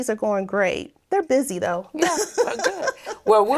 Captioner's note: laughing